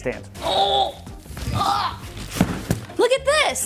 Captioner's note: grunting